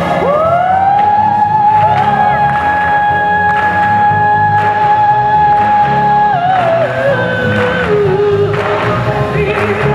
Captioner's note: clapping